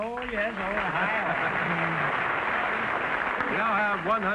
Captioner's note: applause